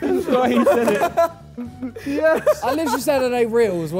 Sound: Sidemen laugh

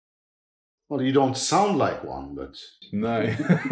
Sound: laughs

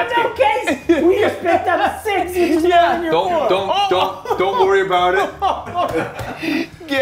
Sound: laugh

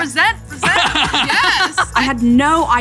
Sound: laughing

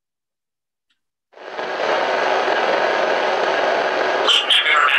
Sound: static

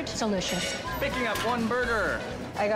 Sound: whistle blowing

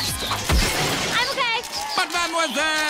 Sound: crashes

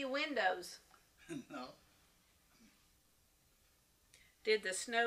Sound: laughs

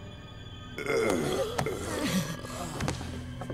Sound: groaning

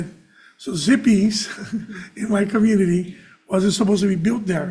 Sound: chuckles

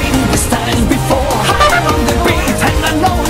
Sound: doot

